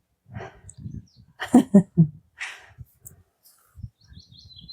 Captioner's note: birds tweeting